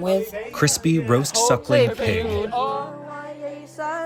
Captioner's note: through translator